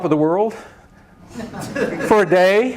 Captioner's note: laughter